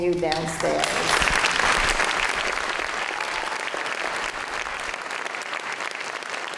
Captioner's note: applause, cheers